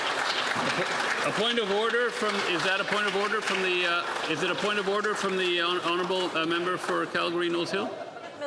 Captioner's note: some Applause